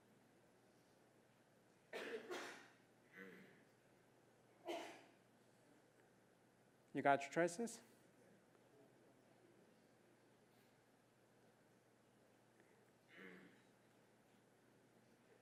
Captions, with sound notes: [COUGH] [COUGH] >> You got your choices?